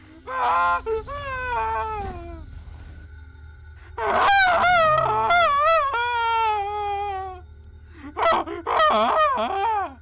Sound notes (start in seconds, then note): 0.2 manly warcrys; 3.9 sigma screams of dominance